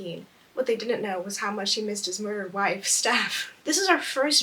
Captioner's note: laughs